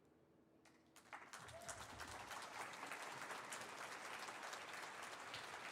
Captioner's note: audience applauding